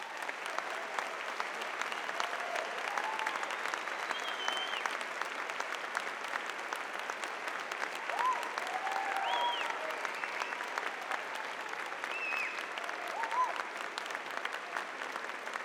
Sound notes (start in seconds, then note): 1.2 audience applauding; 10.0 audience cheering